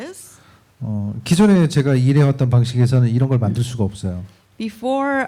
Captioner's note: speaking korean